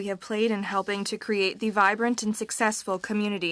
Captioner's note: speaking french